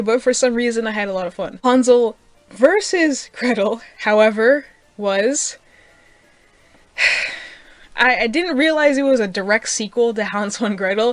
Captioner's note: sigh